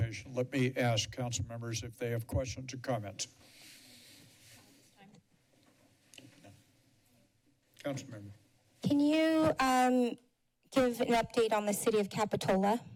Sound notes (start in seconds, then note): 3.4 short silence